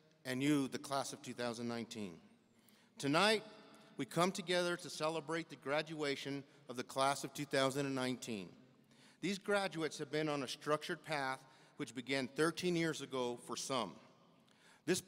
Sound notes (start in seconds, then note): none